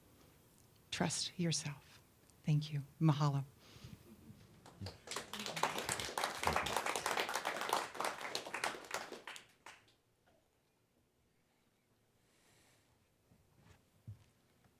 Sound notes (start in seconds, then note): 10.1 applause